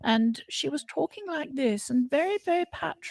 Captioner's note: posh voice